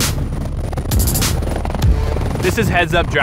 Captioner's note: blades whir